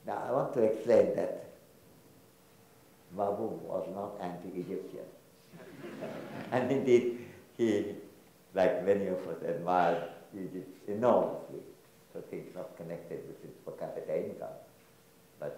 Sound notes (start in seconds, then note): 5.6 audience laughs